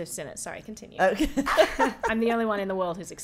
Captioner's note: laughing